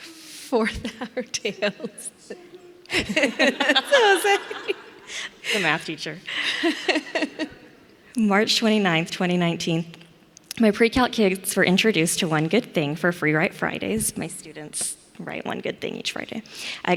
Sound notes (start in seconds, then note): 2.8 laughs